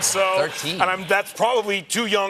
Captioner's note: laughter